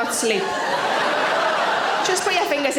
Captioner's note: audience laughing